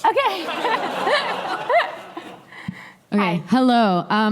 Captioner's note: laughter